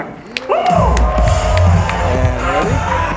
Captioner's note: applauding